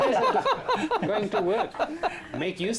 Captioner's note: laughter